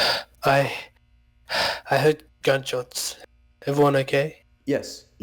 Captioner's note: pant